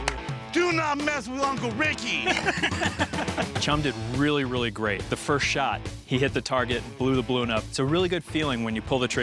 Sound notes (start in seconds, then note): 2.0 Rick laughing